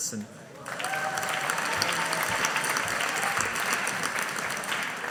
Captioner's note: audience applauding